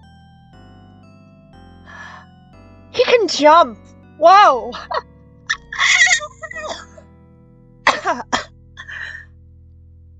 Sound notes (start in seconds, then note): 5.5 more squealing; 7.8 cough cough